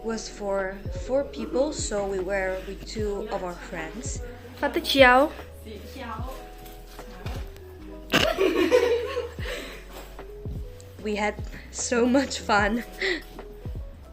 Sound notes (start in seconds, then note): 8.1 laughter